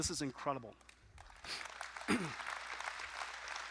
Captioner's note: applause